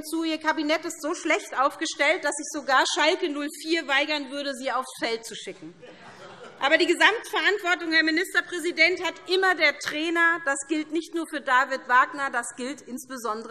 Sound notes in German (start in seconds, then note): 5.6 Heiterkeit SPD und Freie Demokraten